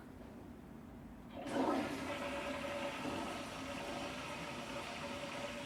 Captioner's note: toilet flushing